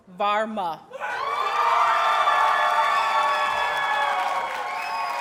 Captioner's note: audience cheers and applauds